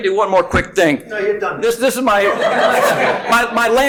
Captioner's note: audience laughing